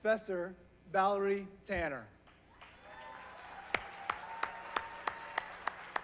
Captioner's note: applause